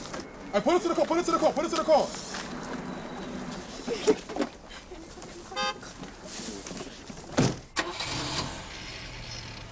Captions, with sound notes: And pull her into the car! Pull her into the car! Pull her into the car! - ( women giggling ) - ( horn honks )